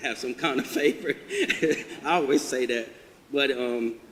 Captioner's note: audience laughter